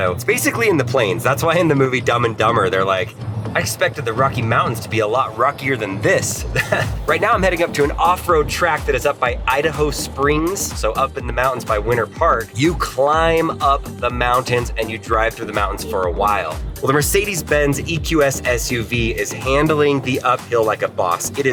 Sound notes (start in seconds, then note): 6.4 chuckles